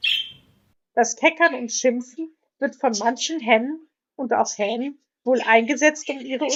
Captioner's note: a chattering or clucking sound